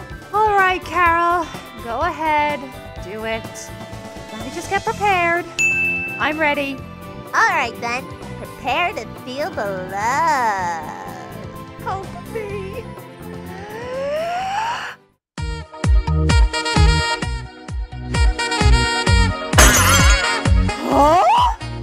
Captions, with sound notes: Alright Carol... Go ahead... Do it... Let me just get prepared. I'm ready. Alright then. Prepare to feel the loooove! Help me! (inhales) HUH?!?!?!